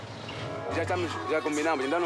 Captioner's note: Portuguese spoken audio